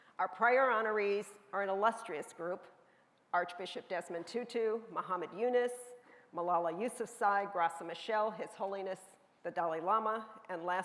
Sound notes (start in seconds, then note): none